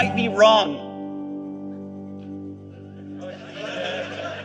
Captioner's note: audience laughing